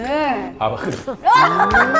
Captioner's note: spitting